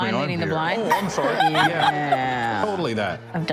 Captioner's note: attendees laughing